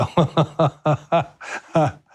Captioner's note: laughs